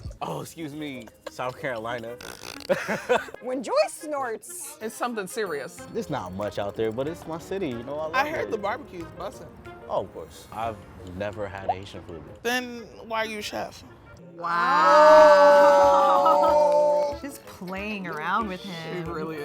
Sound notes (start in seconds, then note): 2.6 laughing